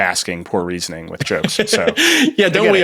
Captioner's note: laughs